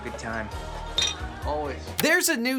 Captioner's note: bottle clinks